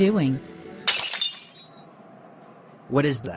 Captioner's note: glass shatter